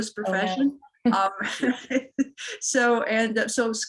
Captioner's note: laughter